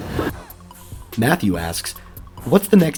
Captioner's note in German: Voice-over